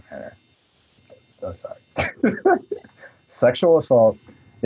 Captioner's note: laughs